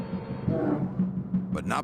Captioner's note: bear growls